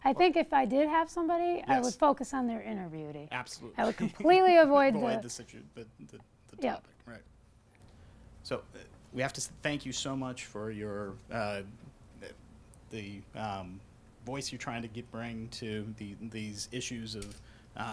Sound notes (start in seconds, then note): 3.6 voiceover; 5.4 voiceover